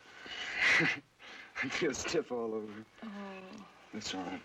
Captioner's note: laughs